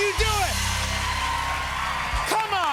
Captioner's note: cheers and applause